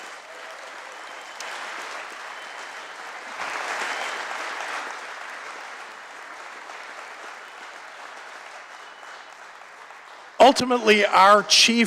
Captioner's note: applause